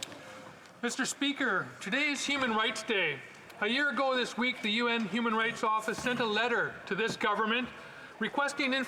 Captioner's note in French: voix de l'interprète